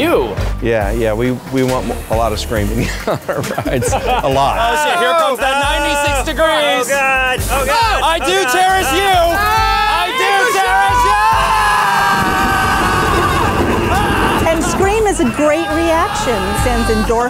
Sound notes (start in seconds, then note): 3.3 laughs; 8.9 collective screaming; 11.6 collective screaming INTENSIFIES